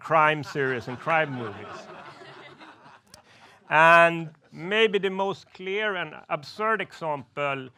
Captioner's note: laughs